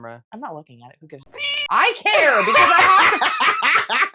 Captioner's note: meow